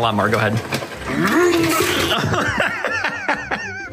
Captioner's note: revving sounds and destruction